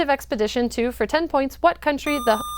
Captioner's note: buzzer